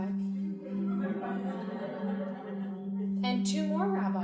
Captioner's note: crowd laughing